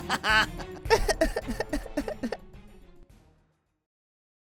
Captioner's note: cries